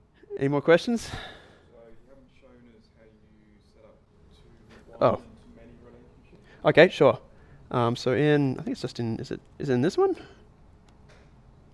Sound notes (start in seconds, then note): 2.0 voiceover